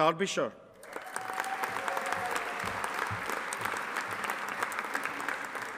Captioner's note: audience applauding